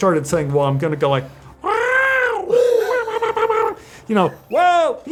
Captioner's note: trilling